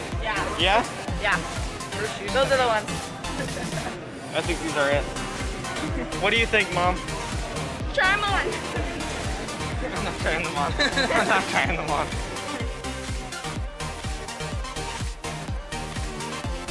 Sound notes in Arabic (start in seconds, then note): 8.4 يضحك; 10.5 أطفال يضحكون; 13.0 تستمر الموسيقى المبهجة